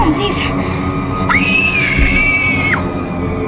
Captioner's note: screaming